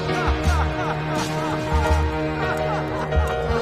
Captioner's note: laughing